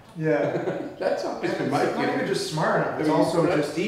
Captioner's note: laughing